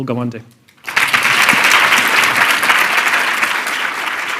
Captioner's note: applause